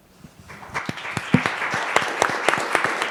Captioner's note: applause